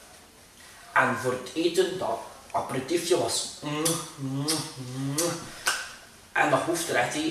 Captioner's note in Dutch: kusgeluiden